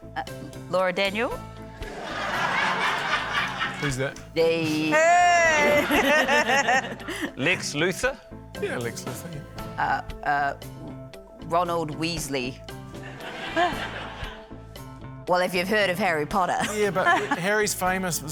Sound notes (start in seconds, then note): 1.9 laughter; 5.4 laughter; 13.0 scattered laughter